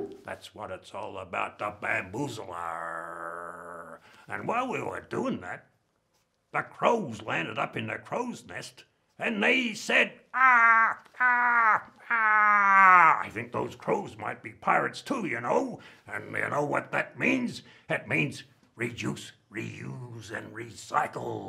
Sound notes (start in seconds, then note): 0.0 bamboo bonks; 10.4 caws